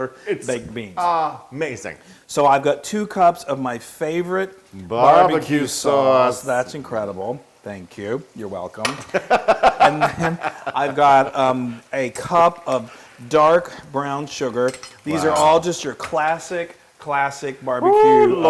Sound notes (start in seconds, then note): 9.2 laugh